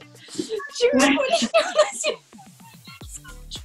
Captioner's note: laugh